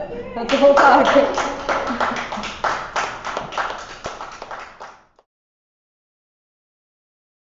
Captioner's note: audience applauds